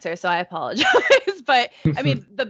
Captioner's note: laughing